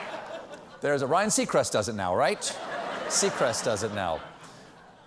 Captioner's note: laughter